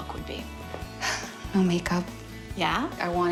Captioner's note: sighs